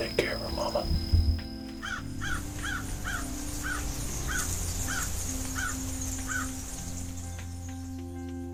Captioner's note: whispering